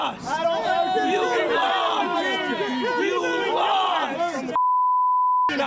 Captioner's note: screaming